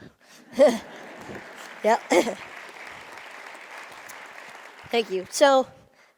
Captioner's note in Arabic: تصفيق